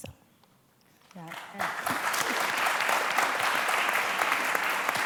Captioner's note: applause